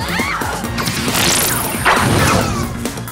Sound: laser shooting

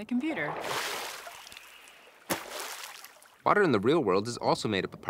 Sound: water splashing

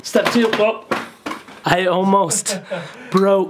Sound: box drops

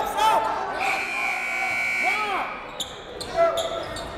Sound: buzzer

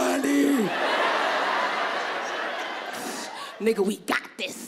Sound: audience laughing

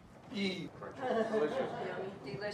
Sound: audience laughs

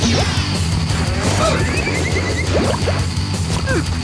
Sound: grunting

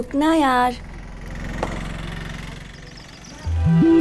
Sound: engine revving; birds chirping

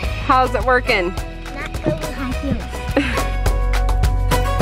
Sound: chuckling; upbeat instrumental music

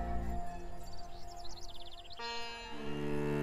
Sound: birds chirping

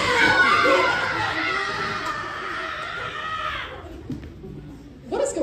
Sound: various screams of joy

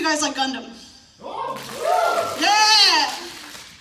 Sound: entire Room Cheers

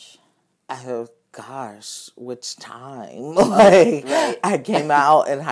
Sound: laughing

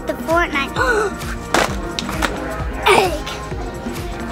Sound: gasps

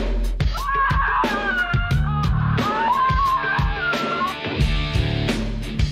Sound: screams

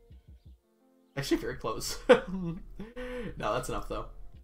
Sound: laughs

